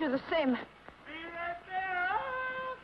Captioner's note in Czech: Křik